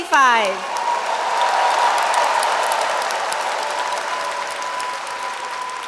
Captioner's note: audience cheers and applauds